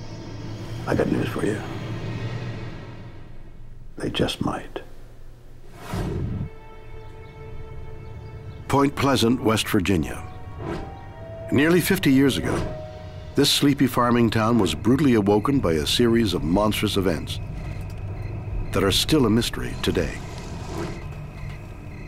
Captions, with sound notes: I got news for you. They just might. (soft music) (birds tweeting) Point Pleasant, West Virginia, nearly 50 years ago, this sleepy farming town was brutally awoken by a series of monstrous events that are still a mystery today.